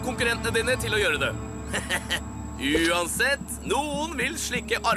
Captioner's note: chuckles